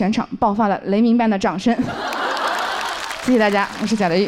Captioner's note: thunderous applause erupts from the audience